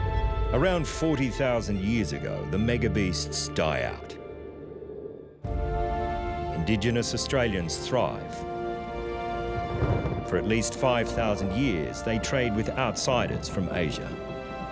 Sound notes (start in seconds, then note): 8.6 thunder rumbles